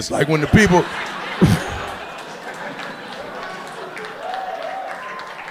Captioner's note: audience laughing